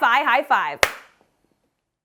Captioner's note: claps loudly